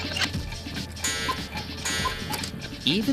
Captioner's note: cuckoo clock chimes